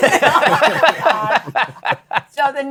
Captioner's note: laughter